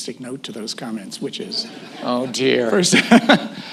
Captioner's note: laughter